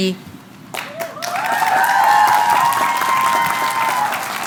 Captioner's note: applause